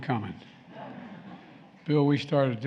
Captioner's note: laughter